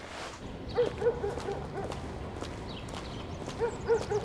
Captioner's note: dog barking